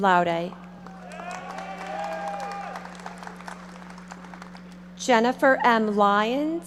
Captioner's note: audience cheering and applauding